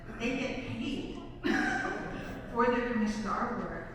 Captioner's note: laughs